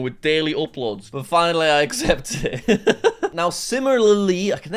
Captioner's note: laughs